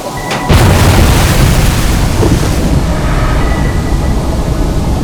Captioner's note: explosion